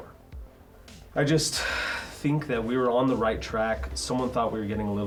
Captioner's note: sighs